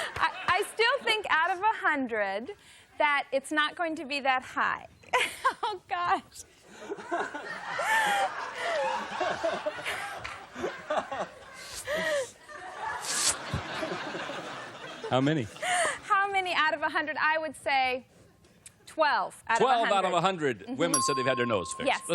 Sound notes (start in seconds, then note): 6.1 laughter